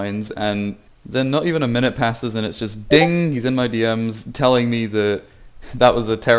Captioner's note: discord sfx